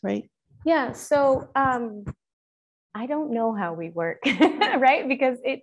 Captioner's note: chuckling